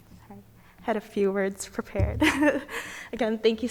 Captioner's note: chuckles